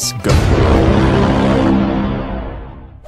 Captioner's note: horn blaring